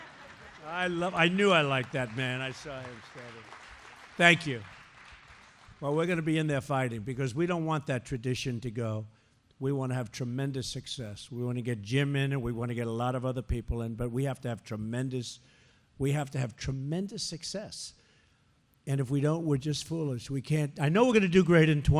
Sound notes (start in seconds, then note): 0.0 laughter; 4.9 applause